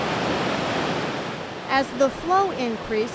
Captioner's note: water rushing